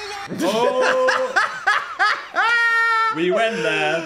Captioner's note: Dan laughing